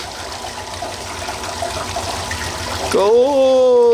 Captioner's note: water running